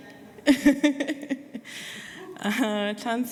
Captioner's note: laughter